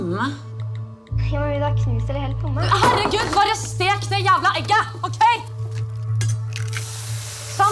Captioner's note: yelling